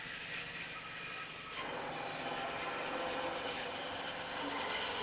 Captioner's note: saw whizzing